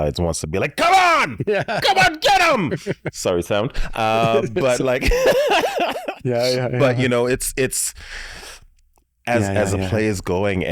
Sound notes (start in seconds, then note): 1.2 chuckles; 5.5 laughs